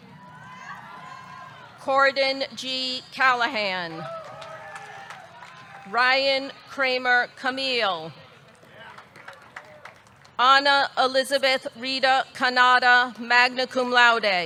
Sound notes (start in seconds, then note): 0.1 audience cheering; 3.9 audience cheering; 4.0 audience clapping; 8.4 audience clapping